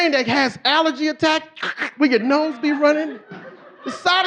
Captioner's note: audience laughing; snorts